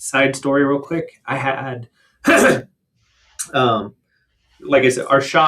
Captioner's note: clears throat